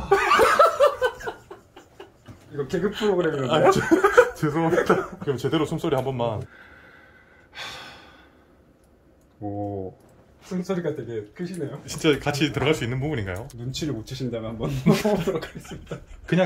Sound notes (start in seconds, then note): 0.0 laughing so hard; 6.4 recording breathing sound